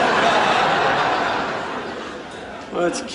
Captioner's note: laugh track